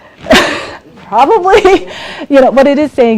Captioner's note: laughs